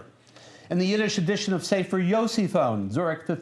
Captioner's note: non-english speech